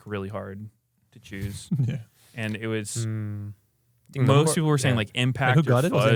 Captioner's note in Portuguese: risos